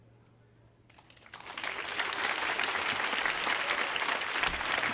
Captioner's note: audience applauding